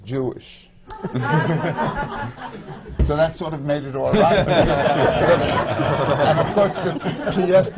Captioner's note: laughter